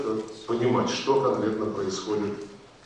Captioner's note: in Russian